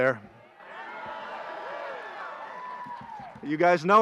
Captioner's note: graduates cheer